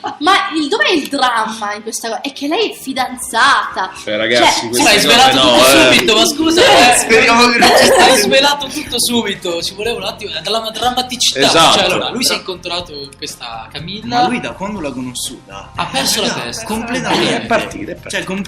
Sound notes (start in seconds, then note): 4.0 laugh